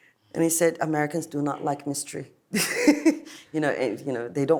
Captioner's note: laughs